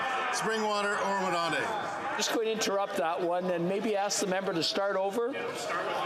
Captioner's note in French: voix de l'interprète